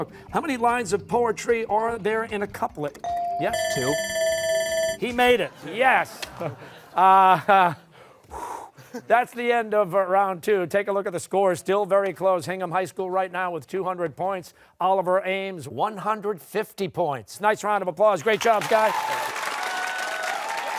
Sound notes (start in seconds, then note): 3.0 bell ringing; 5.4 laughter; 7.8 exhales